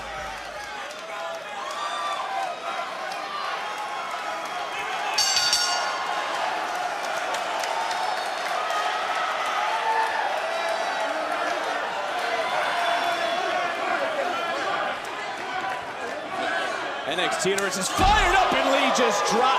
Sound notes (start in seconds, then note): 5.1 bell rings